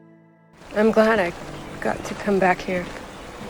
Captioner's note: voiceover